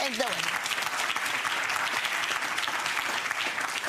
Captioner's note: audience clapping